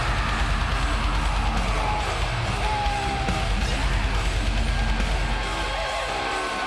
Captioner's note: crowd cheers; intense rock music